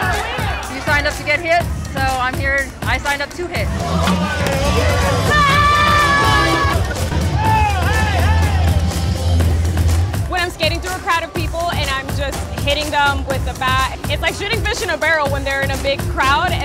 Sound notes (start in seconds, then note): 5.2 lady yelling